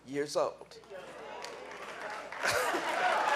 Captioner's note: cheering; clapping